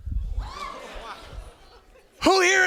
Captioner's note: students gasping